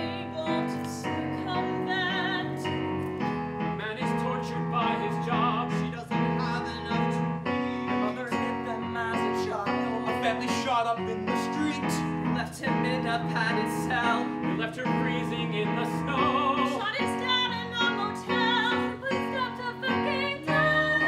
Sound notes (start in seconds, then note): none